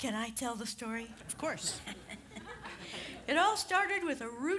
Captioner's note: chuckles